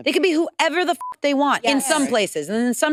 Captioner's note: beep